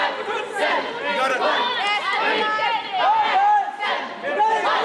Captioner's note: cheerleaders chanting